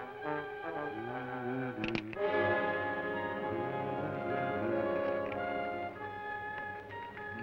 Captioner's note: hums melodically; gun cocks